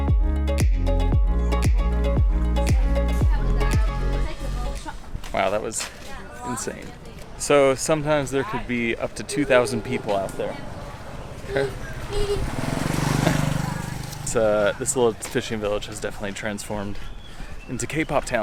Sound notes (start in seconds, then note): 11.9 horn honks